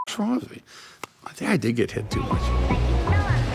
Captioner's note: hand slapping; upbeat music